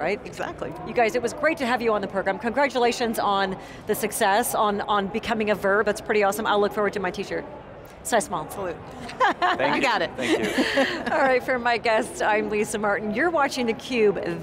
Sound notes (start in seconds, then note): 9.0 all laughing